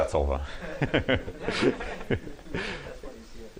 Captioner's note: laughter